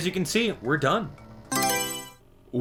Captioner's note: Mario Selection Sound